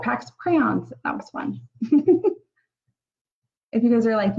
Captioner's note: giggles